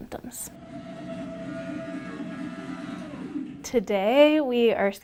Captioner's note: machine whirs